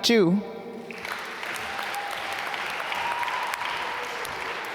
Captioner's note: applause